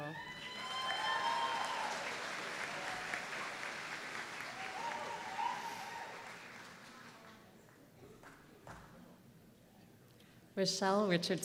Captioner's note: applause